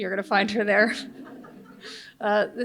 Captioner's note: audience laughs